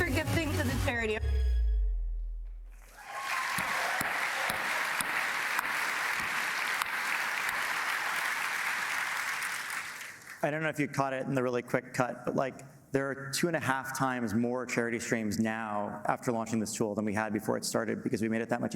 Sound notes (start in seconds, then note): 6.1 applause